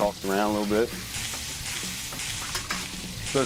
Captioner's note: food sizzling